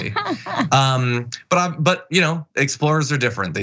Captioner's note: laugh